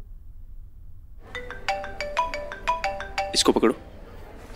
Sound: phone ringing

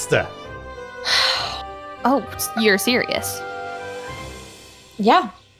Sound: sigh

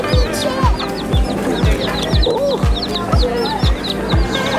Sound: chicks chirping

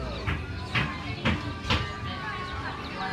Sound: hammering sound

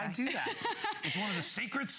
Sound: laughter

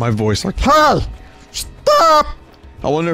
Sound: Tinky Winky voice

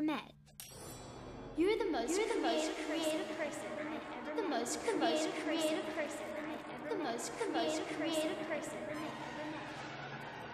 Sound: echoing

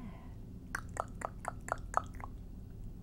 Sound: tongue clicking sounds

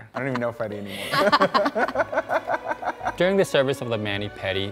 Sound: both laughing

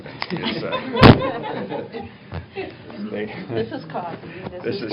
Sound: laughter

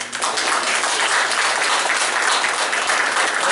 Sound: applause

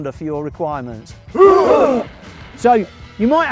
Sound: rugby grunt

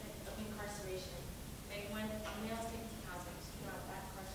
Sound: becomes drowned out by static

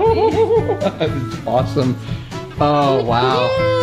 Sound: laughs

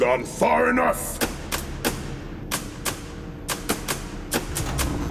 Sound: clicking

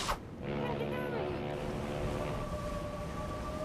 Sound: ship's horn blowing

